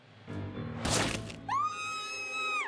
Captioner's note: bullet thumping; Maria screaming